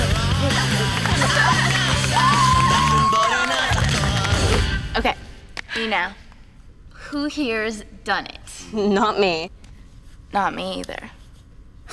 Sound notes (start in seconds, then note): 1.1 group laughs and cheers; 6.4 Cody sighs